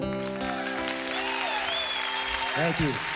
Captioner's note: crowd cheers